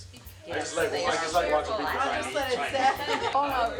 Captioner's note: happy chattering